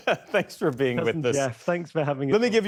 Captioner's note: laughter